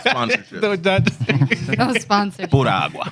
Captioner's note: laughter